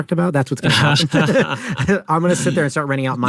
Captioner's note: both laugh